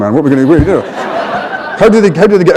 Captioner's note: laughter